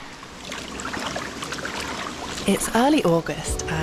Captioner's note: splish splish splish